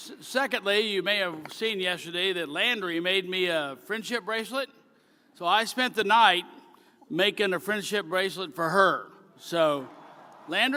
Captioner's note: cheering